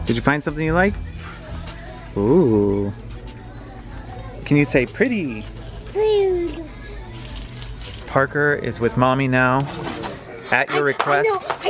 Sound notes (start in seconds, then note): 5.9 baby mumbles